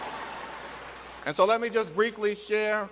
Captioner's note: laughter